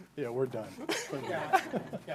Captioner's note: laughing